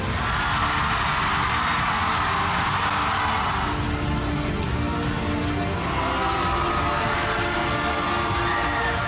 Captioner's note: suspenseful music playing; audience cheering